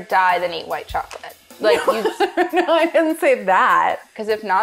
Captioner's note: laughs